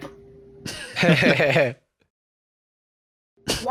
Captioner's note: chuckling